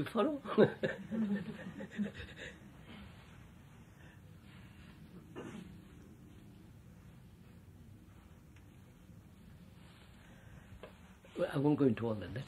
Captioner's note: laughs